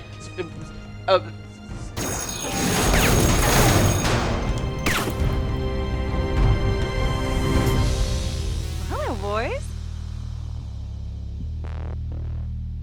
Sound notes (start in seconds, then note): 2.0 gun shots blaring